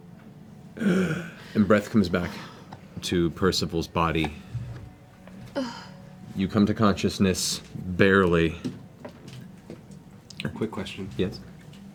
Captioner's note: breathes